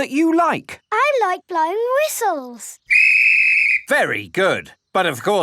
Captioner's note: blows whistle